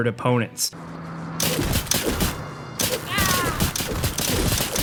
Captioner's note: pistol firing